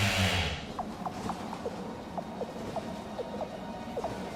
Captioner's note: vampires blipping